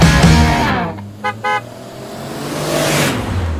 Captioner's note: Jeep Horn and Pass-by